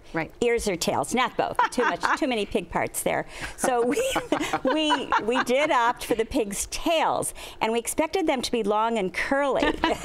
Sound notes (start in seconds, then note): 1.6 laughs; 3.5 laughter